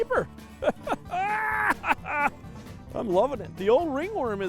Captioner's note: laughing